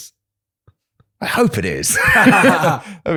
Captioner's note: laughter